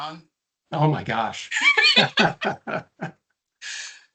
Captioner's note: laughing